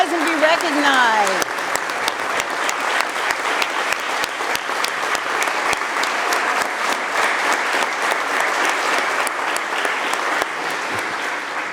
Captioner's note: applause